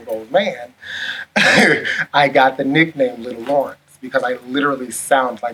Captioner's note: laughs